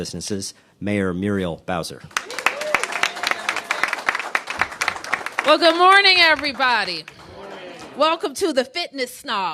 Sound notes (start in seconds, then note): 2.1 cheers and applause